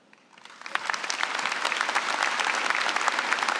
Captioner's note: applause